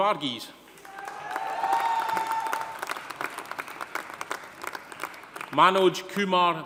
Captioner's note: audience applauding; audience cheering